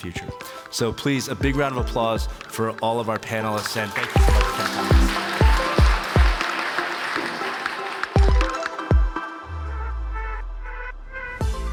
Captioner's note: applause